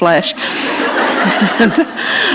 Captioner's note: laughter